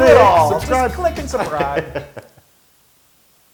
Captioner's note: laugh